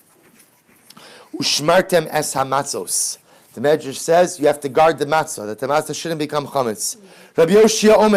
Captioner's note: Hebrew